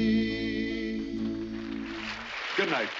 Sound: audience applauding

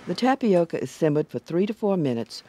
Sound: voiceover

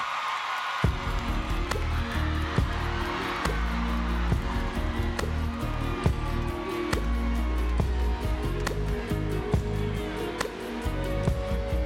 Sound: screams

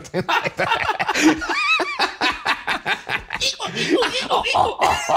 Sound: both laughing

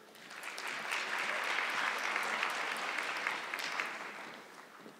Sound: audience clapping

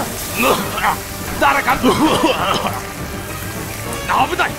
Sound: coughing; more coughing

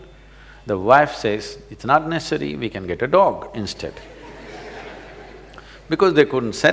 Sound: laughter

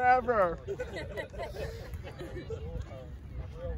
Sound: guys laughing

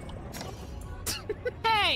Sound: giggling

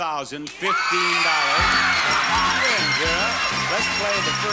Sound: audience cheers

